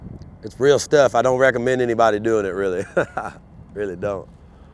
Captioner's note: laughs